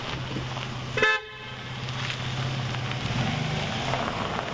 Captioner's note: horn honking